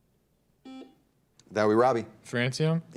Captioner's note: buzzer dings